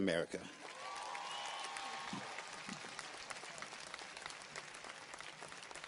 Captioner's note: audience cheers and applauds